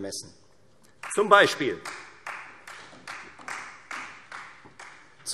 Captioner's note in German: Beifall Freie Demokraten